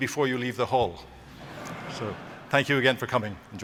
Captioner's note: laughter